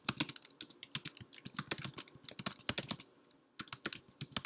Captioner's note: keyboard clicks